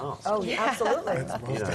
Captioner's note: laugh